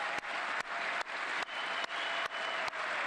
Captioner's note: cheers and applause